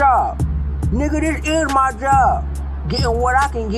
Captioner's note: sarcastic response